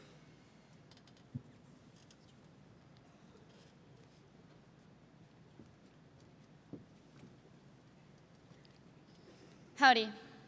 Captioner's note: silence